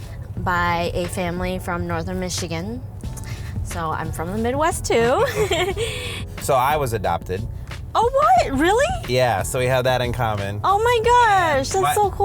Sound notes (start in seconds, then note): 5.2 laughs